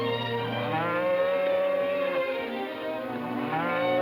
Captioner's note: cows mooing